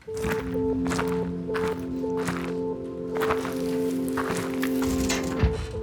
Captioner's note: footsteps in gravel